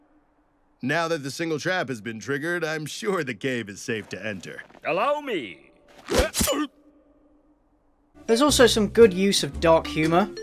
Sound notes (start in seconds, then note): 6.0 quick knife pierce; 6.3 yelps